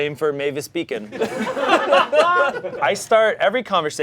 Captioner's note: audience laughing